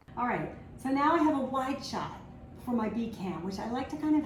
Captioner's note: none